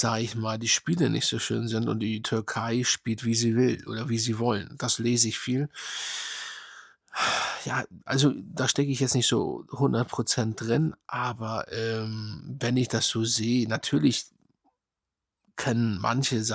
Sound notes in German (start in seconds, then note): 5.7 japst; 7.1 seufzt